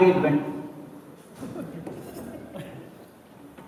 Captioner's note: laughter